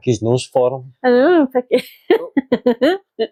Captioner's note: laughs